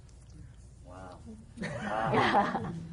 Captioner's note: laughter